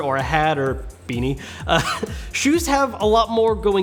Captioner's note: laughs